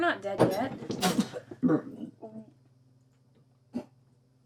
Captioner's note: Betsy spits